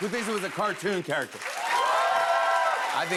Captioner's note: louder cheers and applause